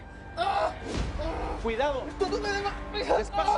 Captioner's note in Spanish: Quejidos